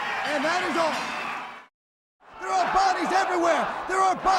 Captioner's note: bell ringing